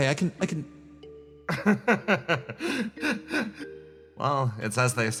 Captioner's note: laugh